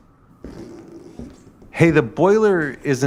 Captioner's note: footsteps